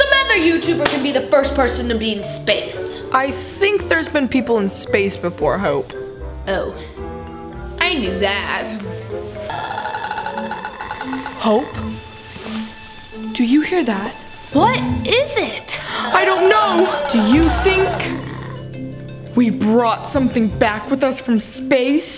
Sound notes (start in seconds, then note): 9.5 strange rattling